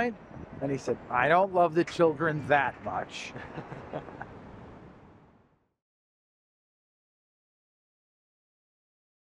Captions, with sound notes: And he said, "I don't love the children that much." (LAUGHTER)